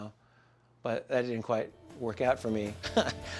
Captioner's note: laughs